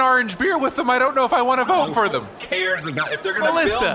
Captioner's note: exasperated